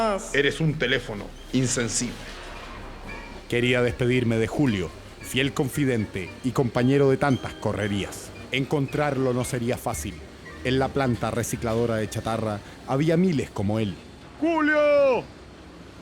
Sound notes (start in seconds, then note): none